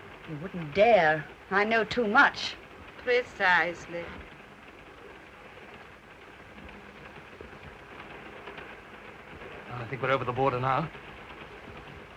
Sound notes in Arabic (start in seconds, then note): 5.3 صوت خشخشة القطار